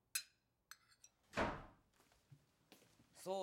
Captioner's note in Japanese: ドアが閉まる音